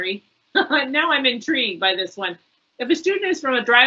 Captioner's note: laughs